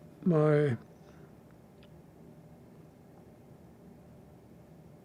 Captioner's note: pauses 13 seconds